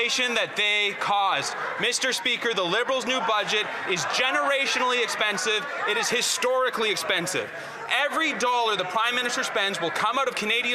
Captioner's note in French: voix de l'interprète